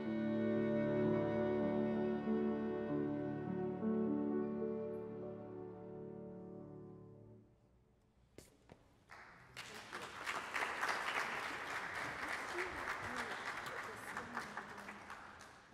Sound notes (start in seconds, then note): 9.0 applause